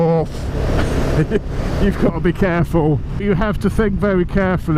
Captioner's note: haha